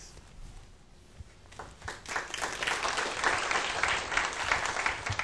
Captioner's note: applause